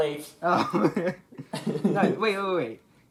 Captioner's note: chuckles